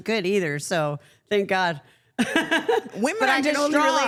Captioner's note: laughs